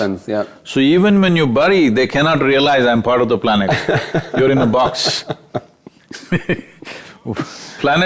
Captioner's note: both Laugh